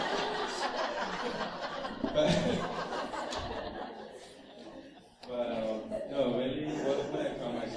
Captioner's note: laughter